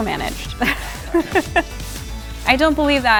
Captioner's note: laughter